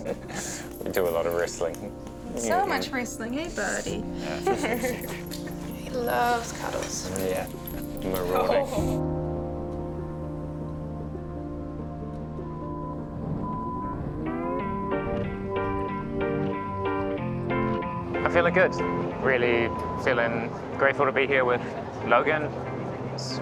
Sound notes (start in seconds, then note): 0.0 chuckles; 10.0 gentle music; 13.2 truck backing alert beeps